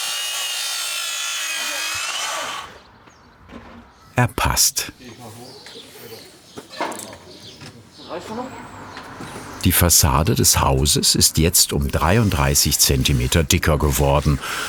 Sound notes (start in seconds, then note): 5.1 birds chirping